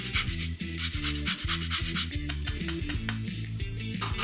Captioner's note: lemon scraping